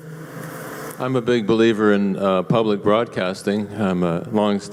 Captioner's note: voiceover